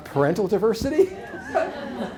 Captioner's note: laughter